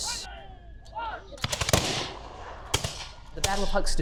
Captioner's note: gunshots cracking